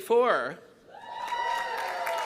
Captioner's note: cheering